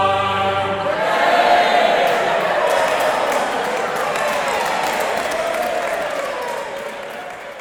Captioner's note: cheering